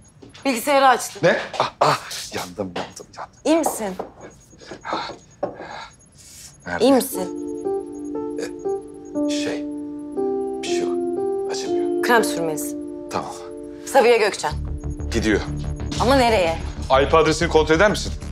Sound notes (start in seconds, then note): 4.7 Cem moans; 7.1 emotional music; 17.6 tension music